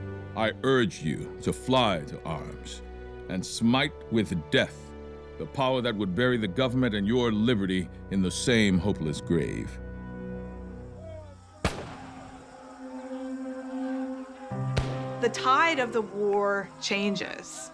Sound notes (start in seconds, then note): 10.7 people shouting; 11.6 weapons firing; 14.5 somber music